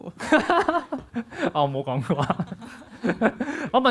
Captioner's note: laughs; laughs